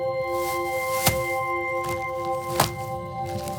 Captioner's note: thumps